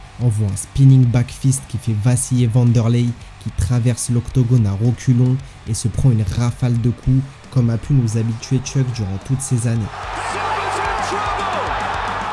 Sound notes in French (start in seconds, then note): 9.7 acclamation